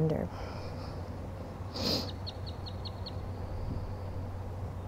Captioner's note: takes deep breath